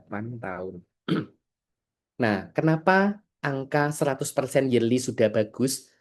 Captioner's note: berdehem